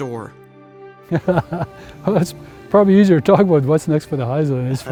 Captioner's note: laughs